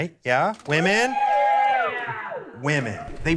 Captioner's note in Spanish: aplausos